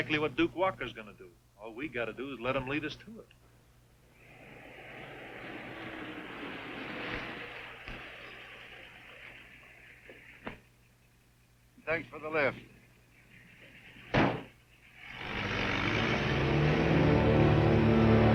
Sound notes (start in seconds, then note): 4.2 car engine revving; 14.1 car door banging; 15.0 car engine revving; 18.1 gentle music